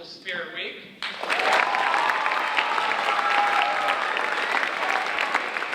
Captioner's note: audience cheering and applauding